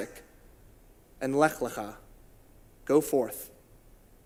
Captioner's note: in Hebrew